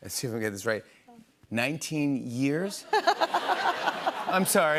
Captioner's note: laughter